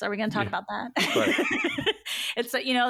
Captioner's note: laughs